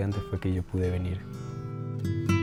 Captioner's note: continues speaking Spanish